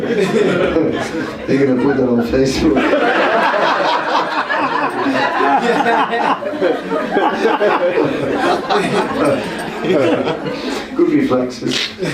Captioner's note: laughter